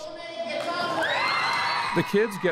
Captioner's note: announcement, applause